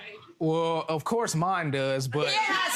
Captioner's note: audience murmurs agreement